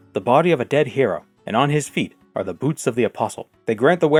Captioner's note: none